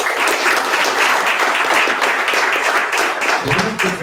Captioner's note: audience applause